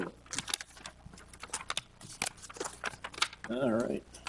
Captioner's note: papers flipping